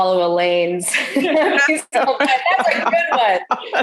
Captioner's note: laughs